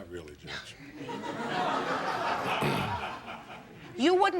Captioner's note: audience laughing